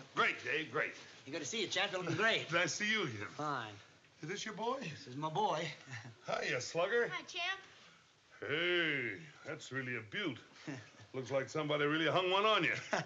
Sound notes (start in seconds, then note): 10.2 chuckles; 12.8 chuckles